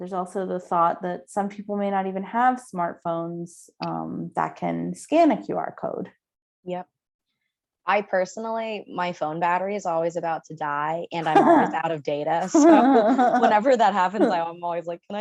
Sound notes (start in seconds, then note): 12.4 laughs